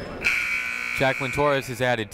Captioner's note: buzzer ringing